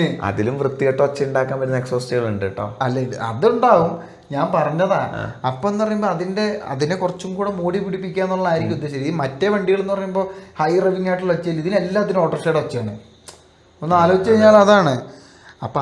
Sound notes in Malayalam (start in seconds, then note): 9.1 തൊണ്ട ശരിയാക്കുന്നു